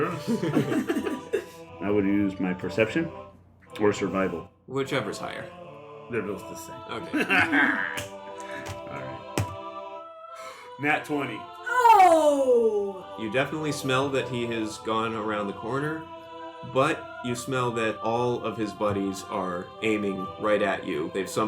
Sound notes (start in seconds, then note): 7.0 laughs